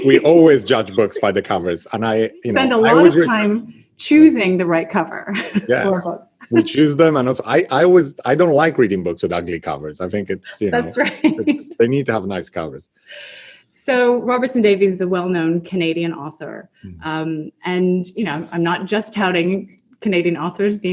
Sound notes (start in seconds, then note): 0.0 laughs; 6.3 laughs; 10.1 laughs